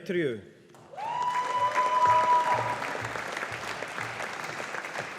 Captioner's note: audience applauding